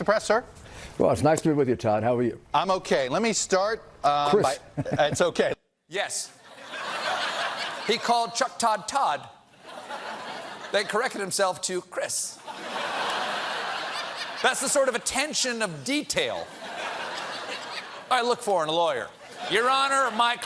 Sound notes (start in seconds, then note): 12.4 laughter